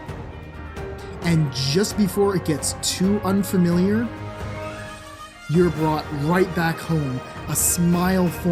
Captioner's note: horns blare